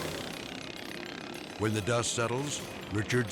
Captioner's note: edgy dramatic music; mower buzzing